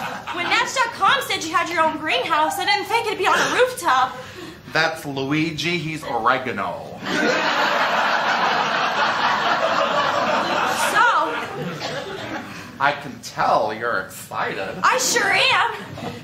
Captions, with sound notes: - When Match.com said you had your own greenhouse, I didn't think it'd be on a rooftop. - That's Luigi. He's oregano. (laughter) So... - I can tell you're excited. - I sure am!